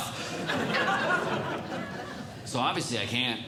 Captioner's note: audience Laughing